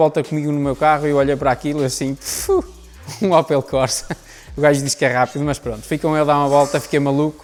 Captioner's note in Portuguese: laughing